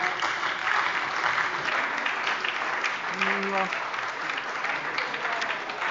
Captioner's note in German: Beifall bei der SPD – Zurufe von der CDU